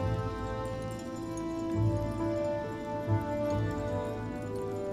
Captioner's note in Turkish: Çan sesi